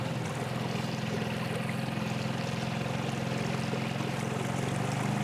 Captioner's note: boat motor humming